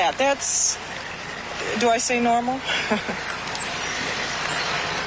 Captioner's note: laughs